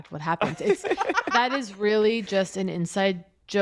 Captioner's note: laughter